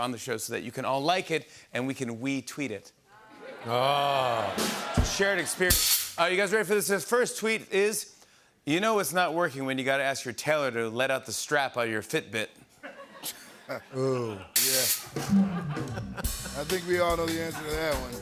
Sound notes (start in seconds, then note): 3.4 cheers; 12.8 light laughter; 15.2 laughter